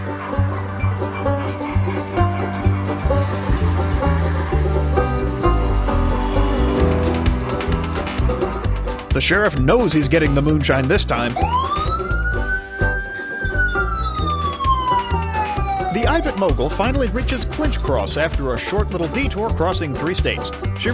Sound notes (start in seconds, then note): 11.2 police siren